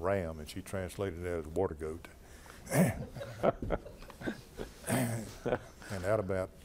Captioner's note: laughter